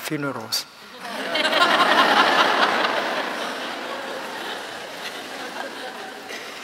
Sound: laughter

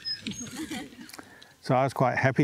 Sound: laughter

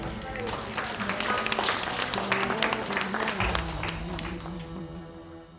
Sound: clapping, cheering

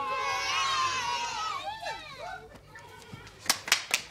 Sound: girls cheer

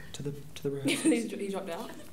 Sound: laughs

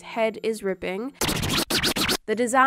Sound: record rewinding

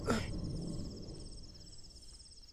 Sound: none

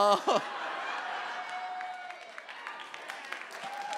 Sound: audience laughs; audience applauds

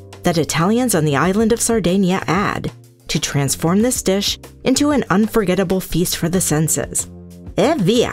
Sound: italian

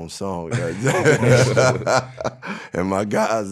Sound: laughing

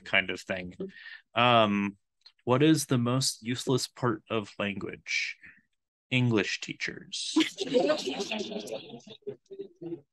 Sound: laughs

